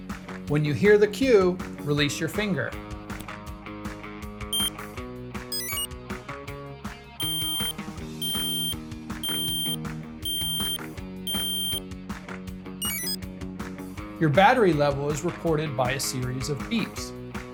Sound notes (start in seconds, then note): 5.5 one short beep; 5.5 enter chime; 7.2 five long beeps; 11.2 exit chime